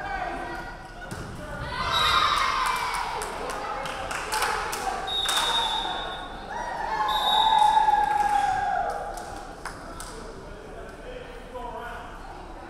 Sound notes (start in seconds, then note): 1.7 crowd cheering; 2.2 referee whistling; 9.2 crowd chattering